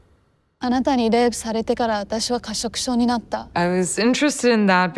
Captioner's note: speaks Japanese